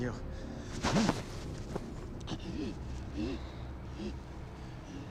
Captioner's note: Peter gasping